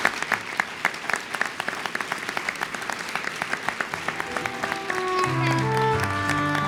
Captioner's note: applause